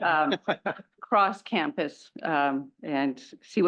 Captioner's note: laugh